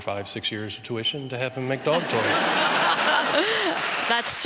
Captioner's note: laughter